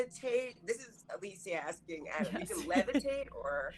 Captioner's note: chuckling